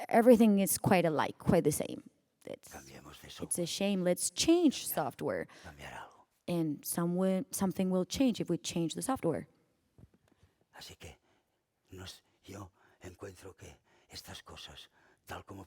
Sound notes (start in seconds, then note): 11.7 speaking spanish